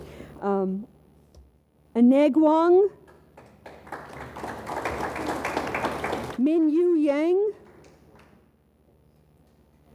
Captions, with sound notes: A-neg Wong. (audience applauds) Min Yu Yang.